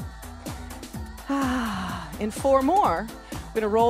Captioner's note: sighs